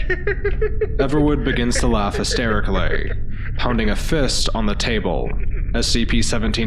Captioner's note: Everwood begins to laugh hysterically, pounding a fist on the table